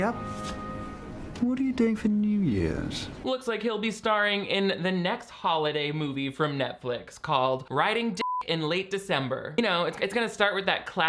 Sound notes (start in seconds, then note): 8.2 beep